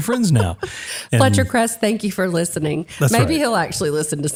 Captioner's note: laugh